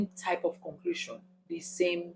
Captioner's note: paause